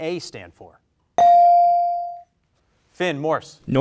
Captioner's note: bell rings